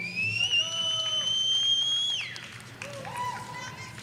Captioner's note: audience cheering